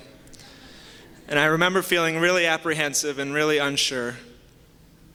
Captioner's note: soft laughter